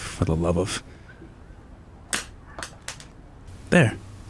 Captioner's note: pencil clatters